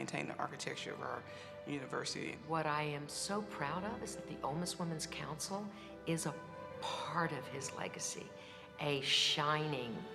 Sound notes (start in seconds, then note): none